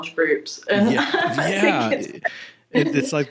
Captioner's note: laughs